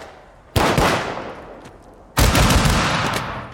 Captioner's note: guns firing